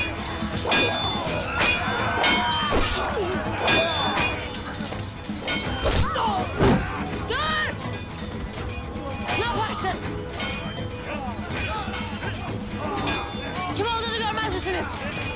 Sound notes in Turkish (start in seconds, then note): 10.1 Çarpışma sesleri; 15.1 Çarpışma sesleri